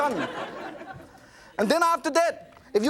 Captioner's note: audience laughs